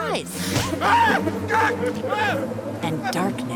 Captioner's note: screaming